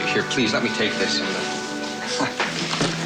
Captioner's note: chuckles